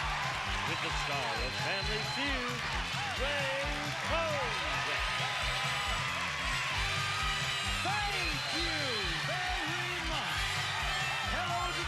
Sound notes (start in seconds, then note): 5.6 cheers and applause